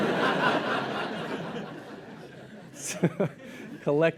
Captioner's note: laughter